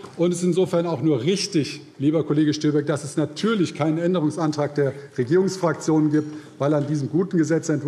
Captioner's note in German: none